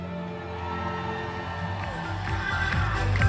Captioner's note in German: Menschen jubeln; heitere Musik